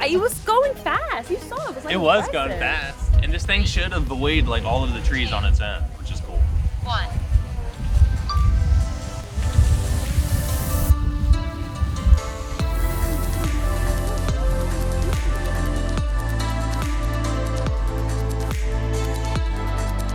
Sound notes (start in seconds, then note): 7.2 electronic Voice; 8.4 electronic chiming; 9.5 smooth music